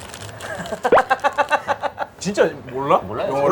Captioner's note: laughing